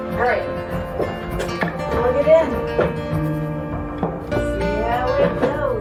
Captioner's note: none